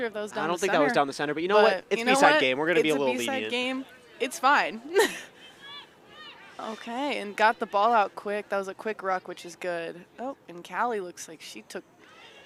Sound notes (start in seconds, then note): 4.8 chuckles